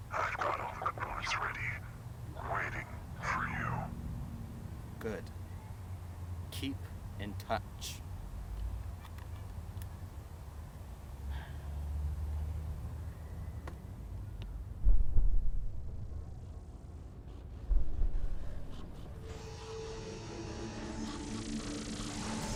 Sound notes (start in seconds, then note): 14.7 A heartbeat; 19.4 distant sounds of blast rays, alien voices repeatedly crying out "EXTERMINATE"